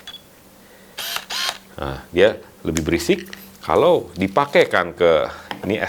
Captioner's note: buzzing